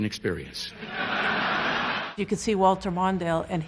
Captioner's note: laughter